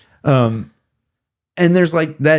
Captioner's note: laughing